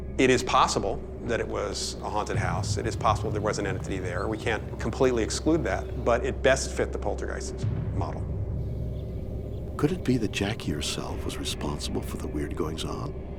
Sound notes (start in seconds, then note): 8.8 birds chirp; 8.8 dark brooding music